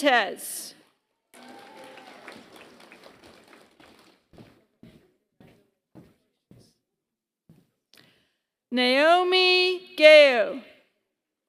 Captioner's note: applause